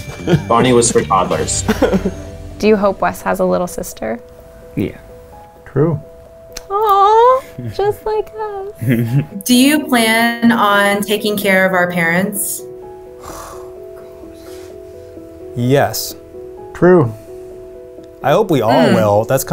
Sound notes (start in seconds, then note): 1.6 man giggles; 13.2 man sighs